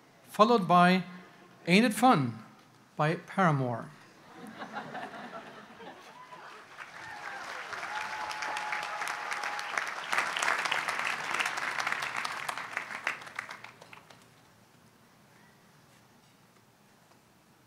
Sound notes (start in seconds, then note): 4.3 audience chuckles; 5.9 audience applauds